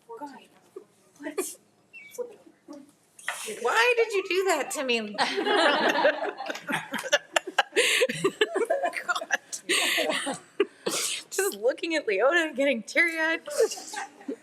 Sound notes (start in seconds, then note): 5.2 attendees laughing; 7.2 laughs